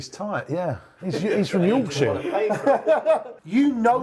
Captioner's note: laughing